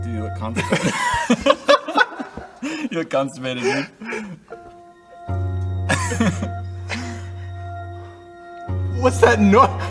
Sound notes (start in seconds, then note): 0.5 all three laughs; 5.9 laughs again